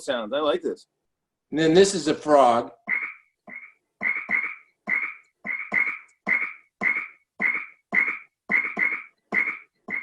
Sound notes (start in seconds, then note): 2.8 frog croaking